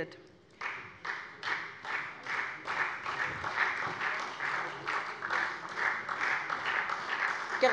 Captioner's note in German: Beifall SPD